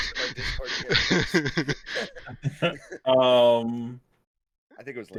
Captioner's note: laughter